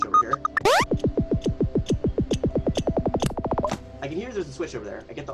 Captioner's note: switch beeping